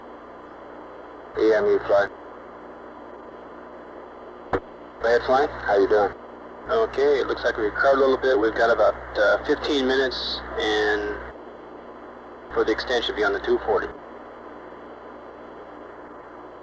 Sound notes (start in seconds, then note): 1.4 mission Control Audio